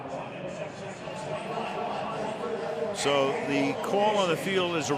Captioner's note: pa announcement